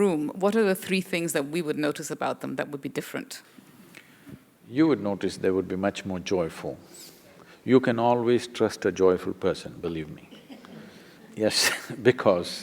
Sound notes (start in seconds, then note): 10.2 laughs; 10.2 few laugh